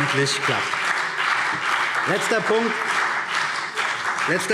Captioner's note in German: Beifall CDU und BÜNDNIS 90/DIE GRÜNEN